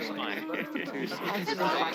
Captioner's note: people chatter